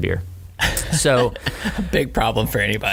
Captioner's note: laughter